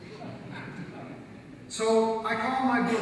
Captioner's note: audience laughs